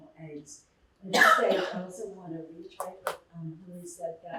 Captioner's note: muffled voice